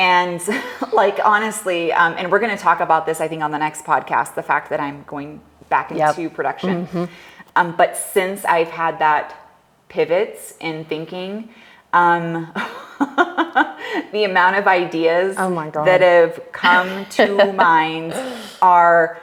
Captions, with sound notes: And like honestly, and we're gonna talk about this, I think on the next podcast, the fact that I'm going back into production. But since I've had that pivots in thinking, (laughs) the amount of ideas that have come to mind are,